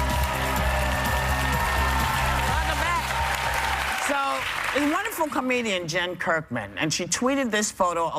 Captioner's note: cheers and applause